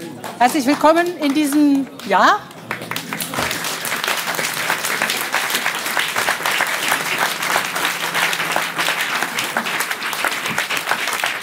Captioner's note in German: Applaus